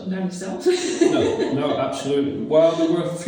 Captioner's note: laughs